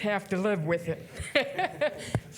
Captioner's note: laughs